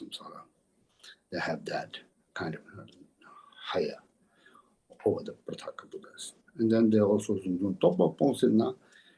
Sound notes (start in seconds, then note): 7.3 tibetan